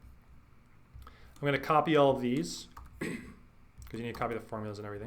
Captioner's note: clears throat